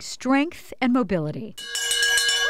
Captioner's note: ringing bell